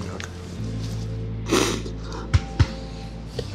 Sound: sniffles

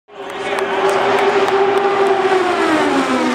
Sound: engines roaring

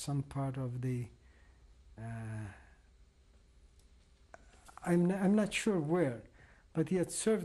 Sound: pauses for 3 seconds

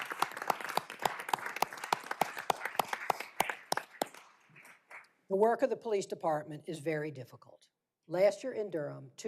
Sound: applause

